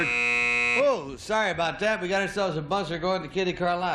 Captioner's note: buzzer